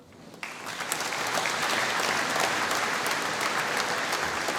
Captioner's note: applause